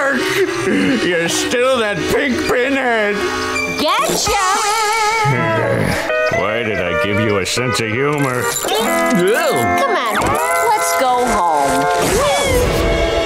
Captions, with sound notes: You're still that pink pinhead! Gotcha! [groaning] Why did I give you a sense of humor? Oh. Come on. Let's go home. Whee!